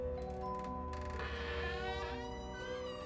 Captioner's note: door squeaking